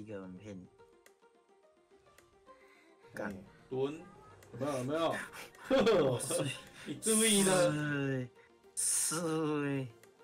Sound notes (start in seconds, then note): 5.1 breathing heavily